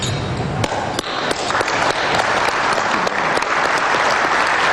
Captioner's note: applause